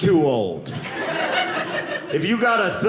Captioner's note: audience laughing